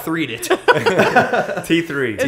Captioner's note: laughter